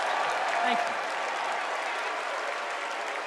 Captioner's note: cheers and applause